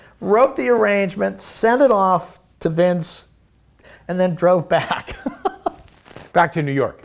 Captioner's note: laughing